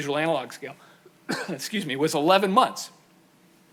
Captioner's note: coughs